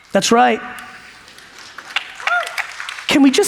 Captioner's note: audience applauds